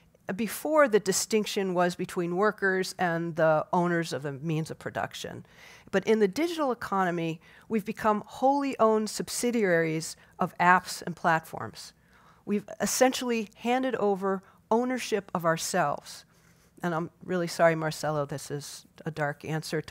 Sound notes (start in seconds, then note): none